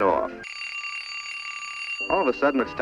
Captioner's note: sudden alarm